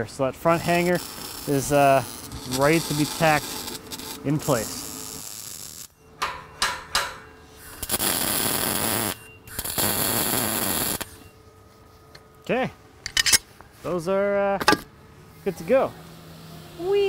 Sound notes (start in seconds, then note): 6.2 hammer banging; 7.5 sharp buzzing